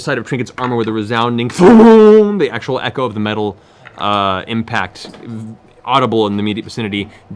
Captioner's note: loud impact